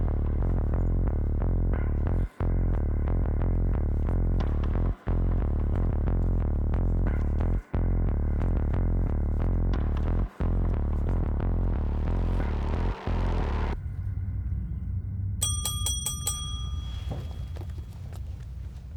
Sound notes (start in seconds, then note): 15.4 table bell chimes